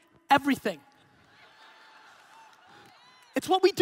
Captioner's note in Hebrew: הקהל צוחק